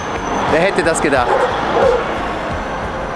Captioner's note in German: Hundebellen